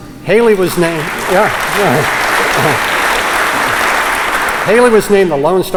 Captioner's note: applause